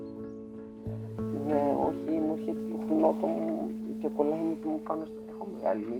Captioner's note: speaking in a foreign language